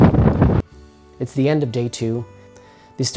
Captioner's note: wind blows